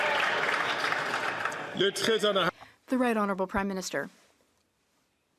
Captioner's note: applause